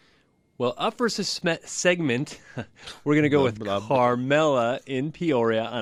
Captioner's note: laughs